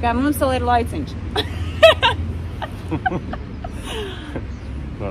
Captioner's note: laugs